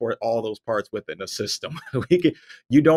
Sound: laughs

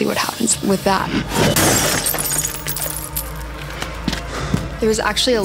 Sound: glass shattering

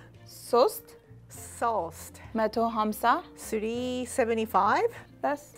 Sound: none

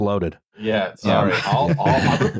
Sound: laughter

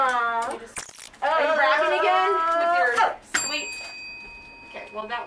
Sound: yelling; bell rings

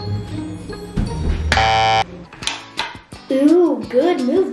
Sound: beeps buzzer

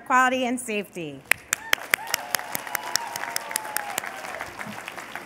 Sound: cheers and applause

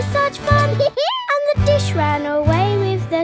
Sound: dog laughs

